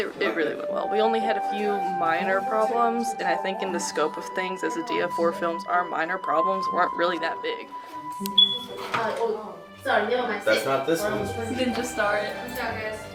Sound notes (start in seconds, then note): 8.1 beep!